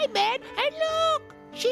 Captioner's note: falsetto